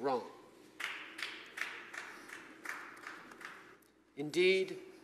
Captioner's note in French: Applaudissements